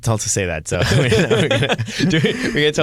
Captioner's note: laughing